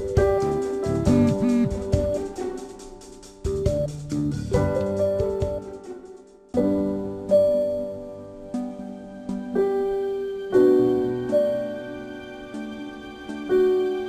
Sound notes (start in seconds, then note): 1.1 ring ring